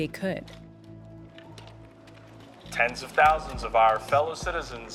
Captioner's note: soundbite of archived recording